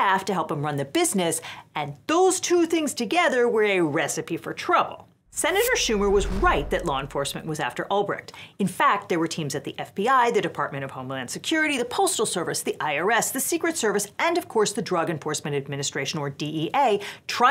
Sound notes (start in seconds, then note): 5.3 air whooshes